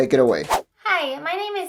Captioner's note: whoosh